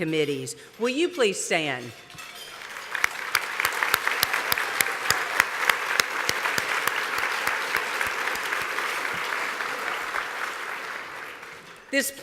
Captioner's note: applause